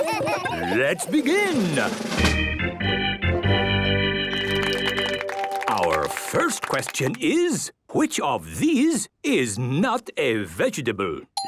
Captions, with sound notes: - Hee hee hee! - Let's begin! - (gameshow music) - (clapping) - Our first question is, "Which of these is not a vegetable?